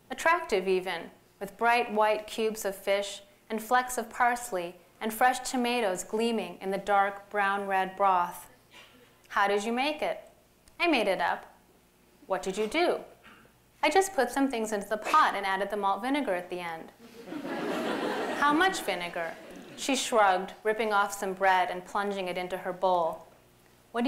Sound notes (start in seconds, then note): 17.0 laughter